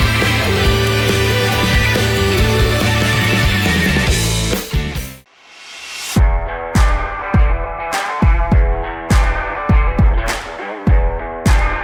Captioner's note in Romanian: Aplauze